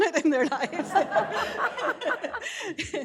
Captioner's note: laughter